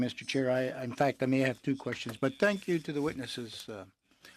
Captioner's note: speaking in french